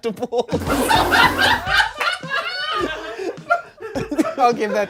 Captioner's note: everyone laughs